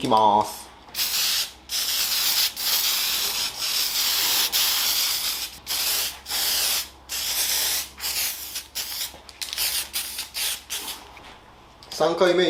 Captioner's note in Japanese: 塗装音